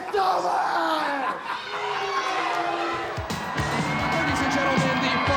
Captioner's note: Vader laughs